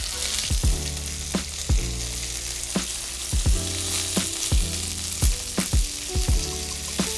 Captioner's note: bright music; pan sizzling